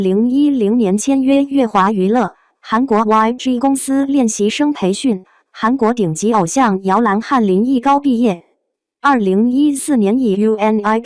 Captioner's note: Korean